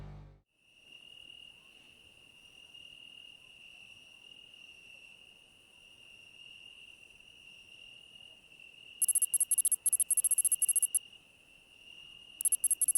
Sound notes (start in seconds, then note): 0.8 grasshoppers